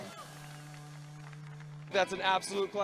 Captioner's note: crowd cheering and clapping